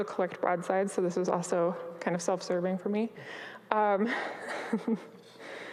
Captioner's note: chuckles